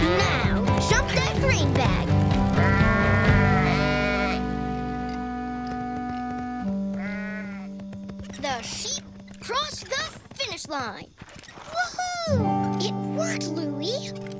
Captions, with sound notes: Now, jump that green bag. [SHEEP BAAING] The sheep crossed the finish line. Woo-hoo. It worked, Louie.